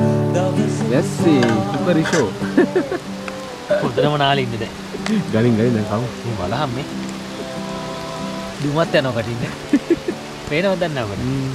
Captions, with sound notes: Cookery show in the rain (laughing) i have become so wet now. Even a smoke comes from my mouth. I do not know if it is visible.